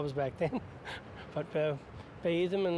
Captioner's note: laughs